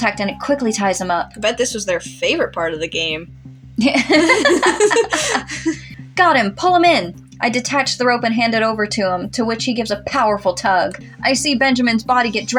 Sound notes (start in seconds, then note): 3.8 giggle; 3.8 laugh